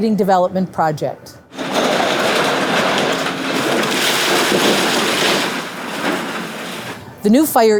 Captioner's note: construction Noise